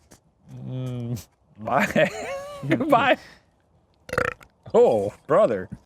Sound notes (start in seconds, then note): 1.7 laughs; 4.0 belching